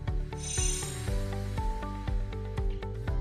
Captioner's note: chiming